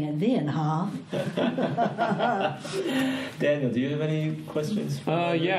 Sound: all laugh

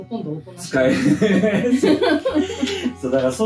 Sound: laughs

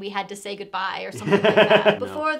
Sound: laughing

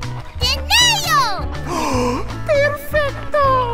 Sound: gasp

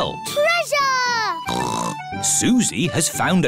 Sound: snorts

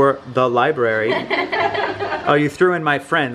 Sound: kids laughing

